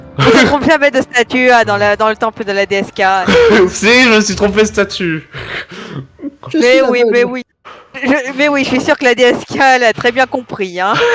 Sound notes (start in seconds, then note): 3.2 laugh; 6.0 small laugh